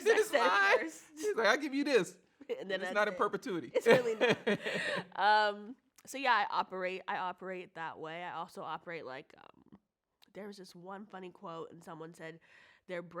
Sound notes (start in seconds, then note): 3.7 both laugh